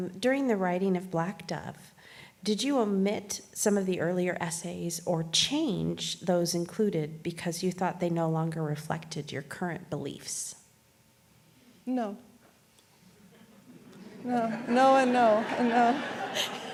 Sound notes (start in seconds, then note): 13.2 laughs; 13.3 audience laughs